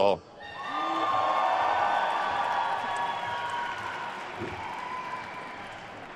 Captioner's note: attendees cheering and applauding